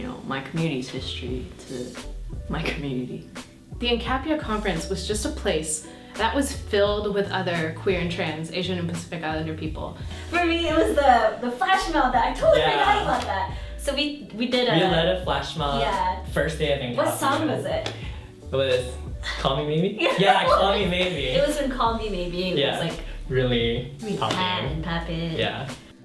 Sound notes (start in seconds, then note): 20.0 laughter